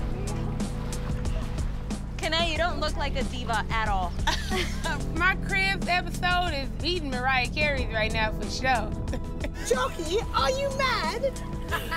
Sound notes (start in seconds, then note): 4.3 laughing